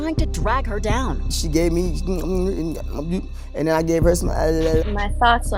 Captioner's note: mouth noises